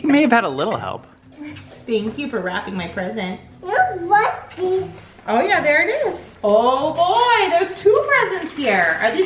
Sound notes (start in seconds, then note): 3.6 babbles